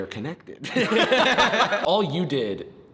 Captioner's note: group laughs